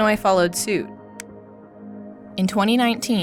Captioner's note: number clicks